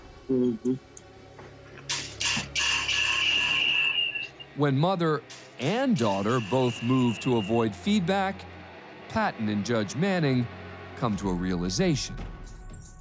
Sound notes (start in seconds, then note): 1.3 feedback whining